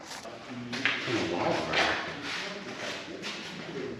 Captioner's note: ambient clunking